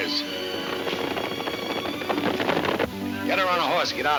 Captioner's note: hooves thundering